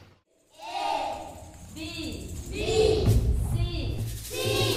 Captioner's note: reciting